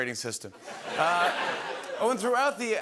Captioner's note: laughter